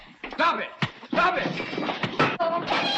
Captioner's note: blows thudding